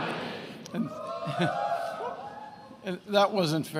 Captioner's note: attendees cheering